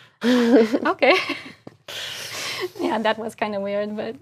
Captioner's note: laugh